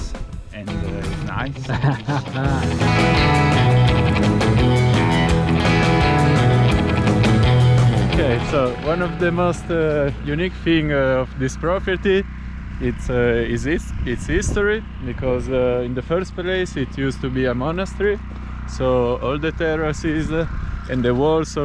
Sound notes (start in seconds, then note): 1.0 laughs; 3.5 energetic music